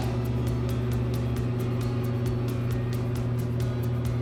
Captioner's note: fan whirring